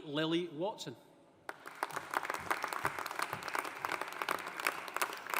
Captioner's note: audience applauding